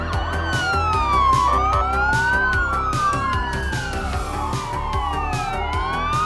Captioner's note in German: heulende Sirenen